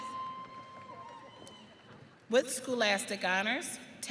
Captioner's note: audience cheering